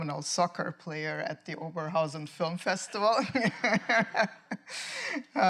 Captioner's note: laughs